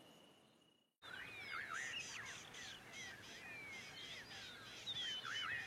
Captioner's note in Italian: cinguettii